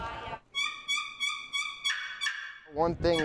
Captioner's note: turkey call chirping